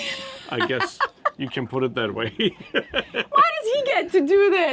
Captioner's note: laughing; laughing